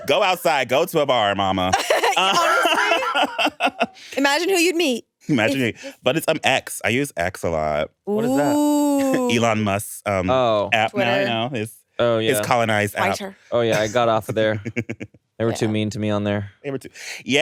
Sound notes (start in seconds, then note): 1.7 laughs